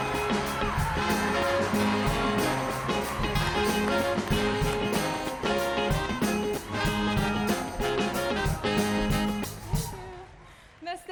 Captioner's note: cheers and applause